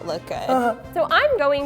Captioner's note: chuckles